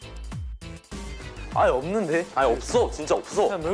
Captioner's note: rushed